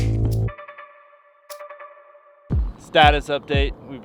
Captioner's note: digital beeping